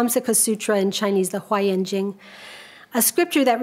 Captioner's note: speaks a foreign language